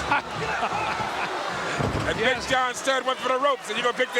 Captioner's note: chuckles